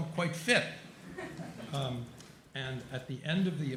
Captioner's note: chuckling